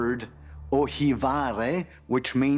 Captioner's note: speaks Greek